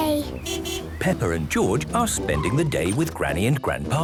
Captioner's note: beeping